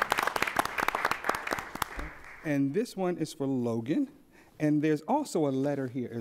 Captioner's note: applause